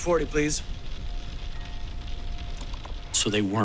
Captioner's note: rain pelting